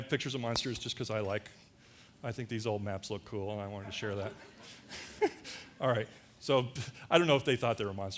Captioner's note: laughter